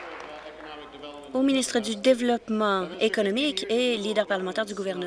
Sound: applause

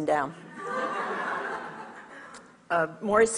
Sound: audience laughs

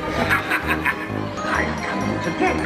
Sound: maniacal laughing

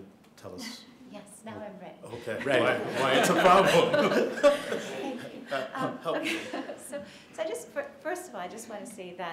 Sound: laughter

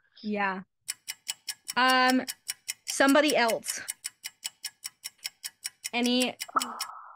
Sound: ticking nosies

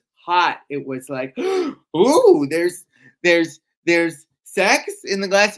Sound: gasps

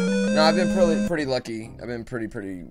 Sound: 8-bit LoZ item achieved audio; death audio

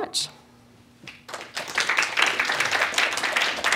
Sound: applause

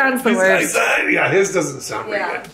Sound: mumbles in raspy voice

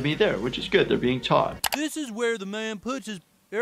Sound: none

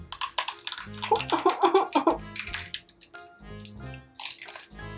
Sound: taco crunches; whimpers

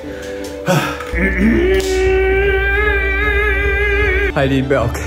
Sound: high pitched humming

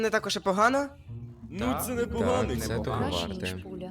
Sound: mumble in agreement

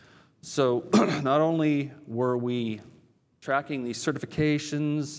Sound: cough

